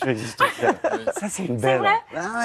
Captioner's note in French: rires